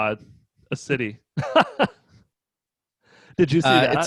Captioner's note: laughing